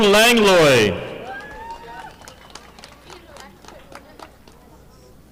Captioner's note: audience applauding